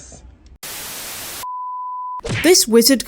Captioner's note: static